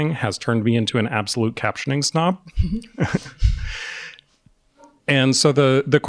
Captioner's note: chuckles